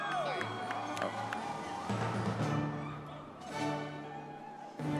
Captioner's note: audience clapping and cheering; triumphant music